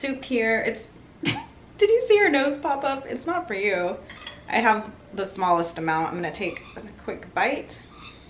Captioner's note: laugh